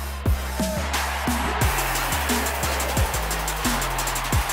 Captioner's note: cheering